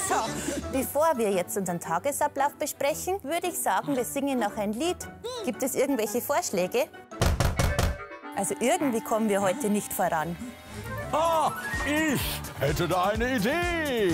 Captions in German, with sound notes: Bevor wir den Tag besprechen, singen wir noch ein Lied. Gibt es Vorschläge? *Klopfen* Irgendwie kommen wir nicht voran. Ich hätte da eine Idee.